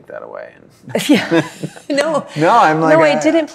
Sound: laughs

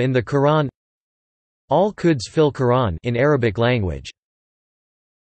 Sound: in Arabic Language

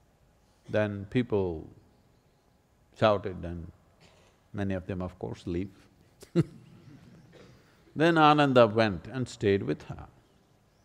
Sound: laughs

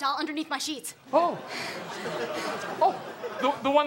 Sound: audience laughs

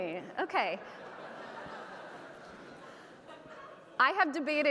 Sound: audience laughing

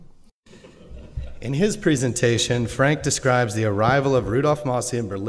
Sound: laughter

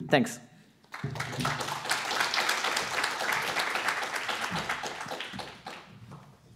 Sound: applause

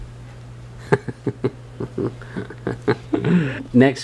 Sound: dad laughing

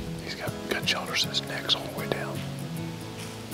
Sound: whispering

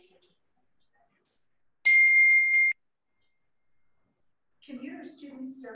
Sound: bell dings

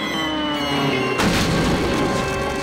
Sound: crashing

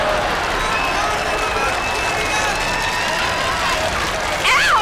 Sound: cheering

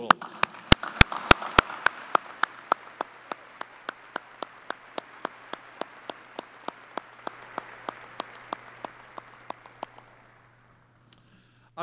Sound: applause

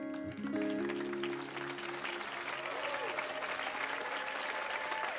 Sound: audience clapping

